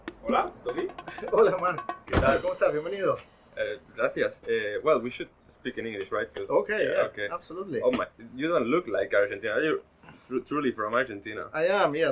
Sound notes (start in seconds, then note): 6.8 speaking English